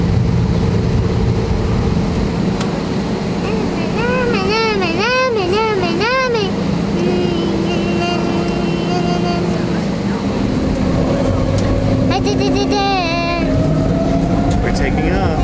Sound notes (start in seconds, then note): 5.1 vocalizing; 11.7 plane engine whirring